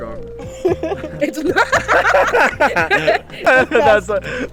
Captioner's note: laughs